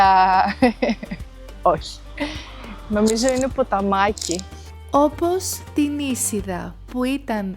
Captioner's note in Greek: γέλιο